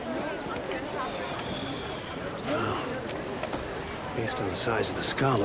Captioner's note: sighs